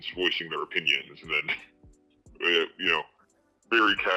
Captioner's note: chuckles